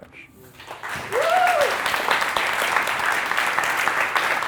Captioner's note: audience applauds